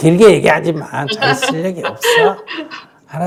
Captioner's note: 질문자 웃음